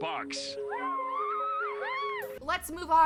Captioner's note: mild cheering